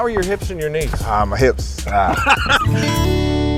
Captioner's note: Spice grunting; laughing; guitar strumming